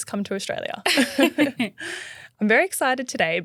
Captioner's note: both laughing